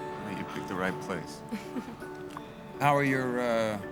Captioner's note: girl laughs